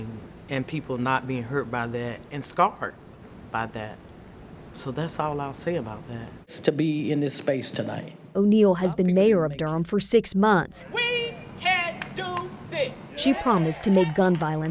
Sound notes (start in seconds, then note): 13.1 crowd cheering